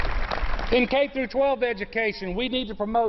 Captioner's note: applause